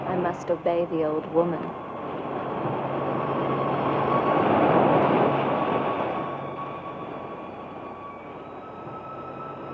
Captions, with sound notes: - I must obey the old woman. (mysterious music continues) (waves crashing)